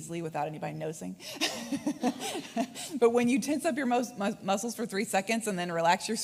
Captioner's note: laughs